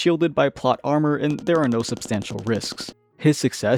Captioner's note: tapping